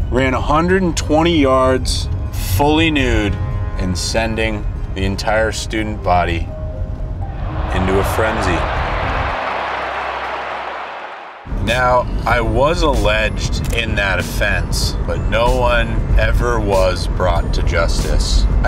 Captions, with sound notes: ran 120 yards fully nude and sending the entire student body into a frenzy. (crowd cheering) Now I was alleged in that offense, but no one ever was brought to justice.